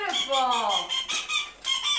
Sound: blows duck call

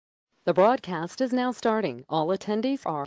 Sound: voiceover

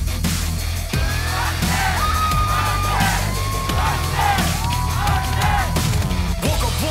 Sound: crowd chanting

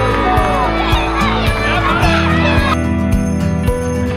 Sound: cheers; upbeat music

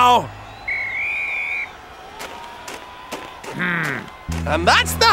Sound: whistle blowing

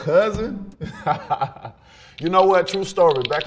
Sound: laughing

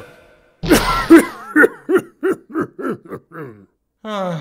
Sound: ah-HHHHEM!; ah, that old familiar clearing of the throat

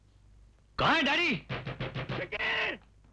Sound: knocking

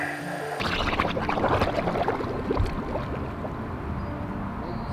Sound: water bubbles

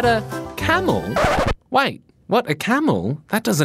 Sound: record scratches, music stops

